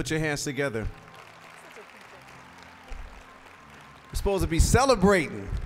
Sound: applause

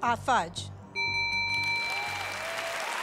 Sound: bell rings; cheers and applause

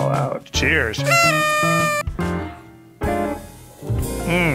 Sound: party horn blares

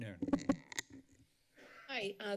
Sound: microphone rustling

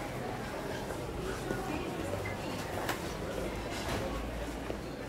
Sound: background chatter

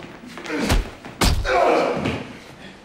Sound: grunting

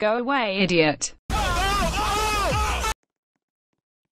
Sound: crowd reacting to how good this insult is

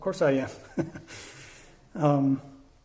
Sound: chuckles

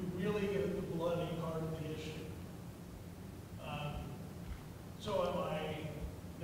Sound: speaking quietly

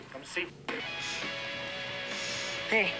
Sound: sniff

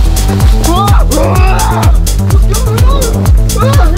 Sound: grunting

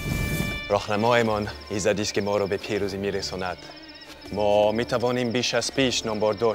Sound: Xerxes speaking in foreign language

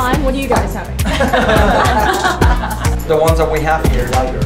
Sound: non-staged laughter

